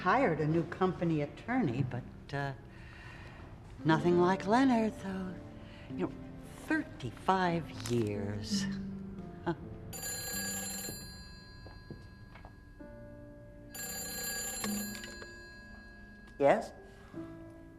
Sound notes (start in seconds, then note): 10.0 ringing